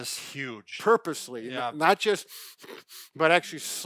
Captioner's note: breathes deeply